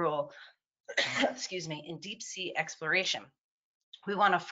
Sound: coughs softly

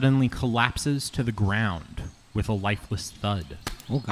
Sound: thud sound

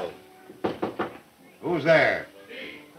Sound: knocking at the door

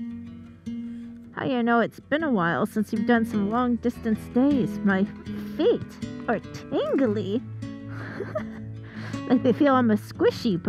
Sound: giggles

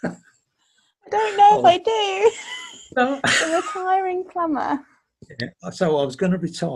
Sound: laughs

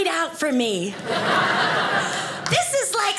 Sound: audience laughing

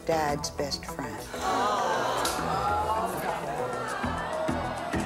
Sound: audience clamors

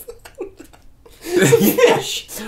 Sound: laughing

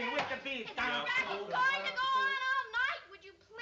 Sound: shouting

